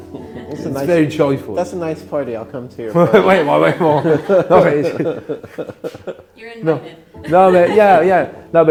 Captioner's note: laughing